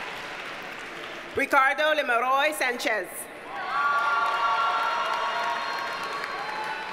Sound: audience cheers and applauds

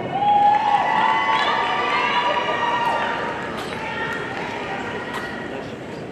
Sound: audience cheering and applauding

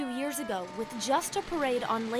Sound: fire truck sirens

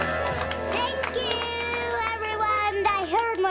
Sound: applause

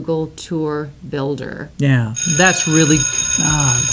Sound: bell ringing

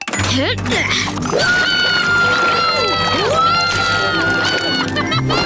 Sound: grunting; screaming; laughing, grunting

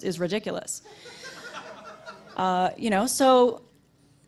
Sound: audience laughter

